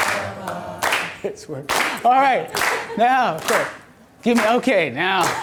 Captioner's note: laughs